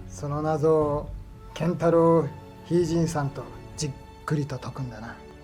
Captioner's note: Toshio speaking in foreign language